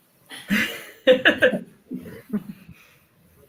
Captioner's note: laughing